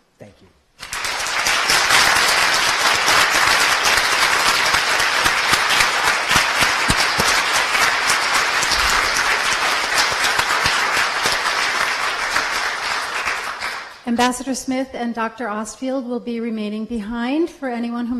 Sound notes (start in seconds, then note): 0.8 applause